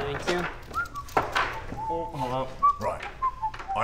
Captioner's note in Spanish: Silbido